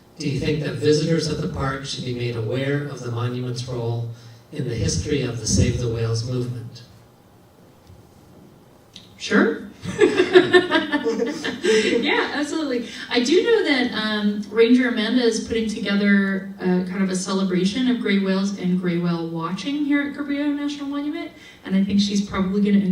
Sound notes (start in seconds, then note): 9.8 laughing